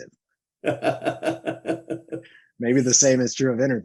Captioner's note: laughs